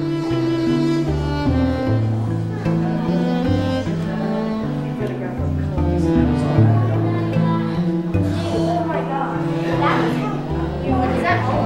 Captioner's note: visitor chatter